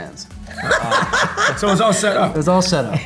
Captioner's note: laughter